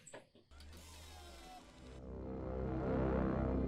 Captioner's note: door squeaks open; deep threatening music